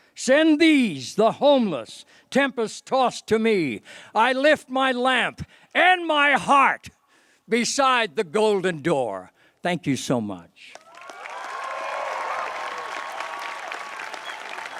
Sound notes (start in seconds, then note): 10.7 applause